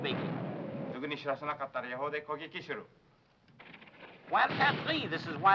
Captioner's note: speaking foreign language